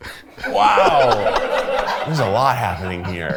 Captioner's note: everyone laughs